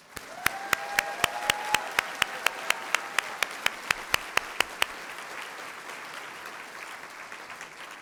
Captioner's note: cheering & Applause